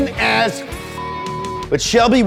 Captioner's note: beep